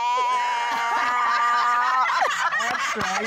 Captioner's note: laughter